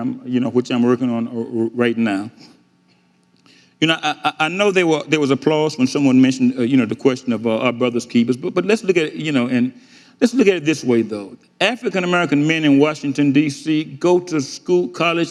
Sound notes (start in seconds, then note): none